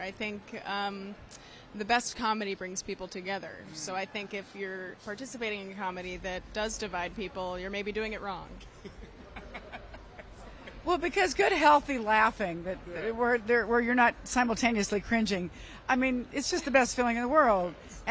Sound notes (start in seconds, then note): 8.7 laughs